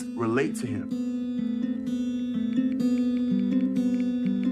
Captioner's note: keyboard clacking